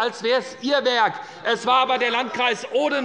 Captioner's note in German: Zurufe von der CDU